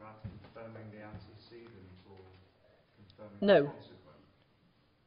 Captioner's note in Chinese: 無聲